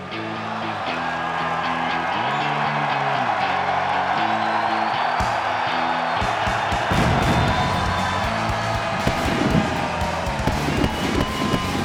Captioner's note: crowd cheering